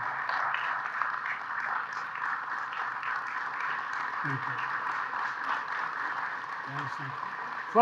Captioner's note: applause